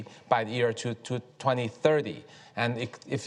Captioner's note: none